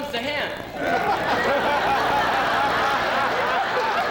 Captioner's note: laughter